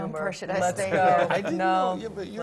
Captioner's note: laugh